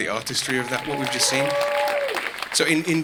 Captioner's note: audience cheering